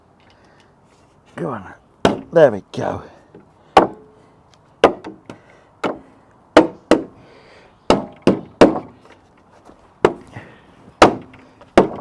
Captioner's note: lots of hammering